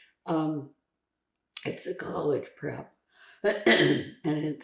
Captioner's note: clears throat